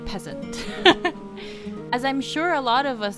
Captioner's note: laughter